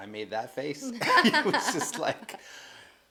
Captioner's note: laughing